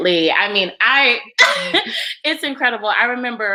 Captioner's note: laughs